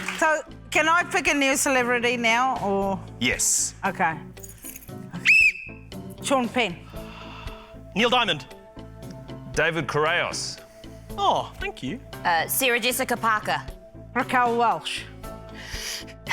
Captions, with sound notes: - So, can I pick a new celebrity now? Or... - Yes. - OK. - (BLOWS WHISTLE) - Sean Penn. - Neil Diamond. - David Correos. - Oh, thank you. - Uh, Sarah Jessica Parker. - Raquel Welch.